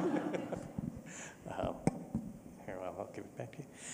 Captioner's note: laughter